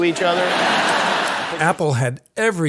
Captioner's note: audience laughs